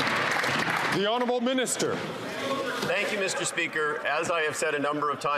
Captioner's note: applause